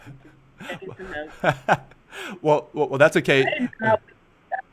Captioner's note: laughs